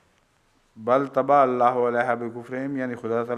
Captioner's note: Arabic